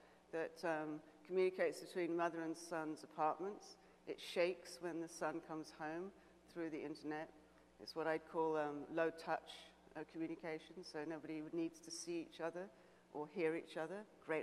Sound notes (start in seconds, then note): none